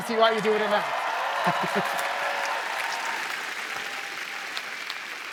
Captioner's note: cheering